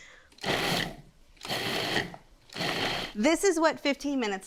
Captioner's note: device buzzing